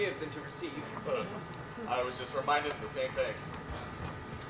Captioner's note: laugh